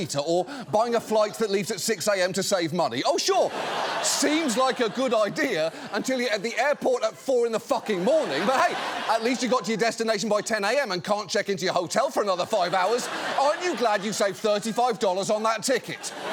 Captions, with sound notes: or buying a flight that leaves at 6:00 a.m. to save money. -Oh, sure... -(AUDIENCE LAUGHS) ...seems like a good idea until you're at the airport at 4:00 in the fucking morning. But hey, at least you got to your destination by 10:00 a.m. and can't check into your hotel for another five hours. Aren't you glad you saved 35 dollars on that ticket?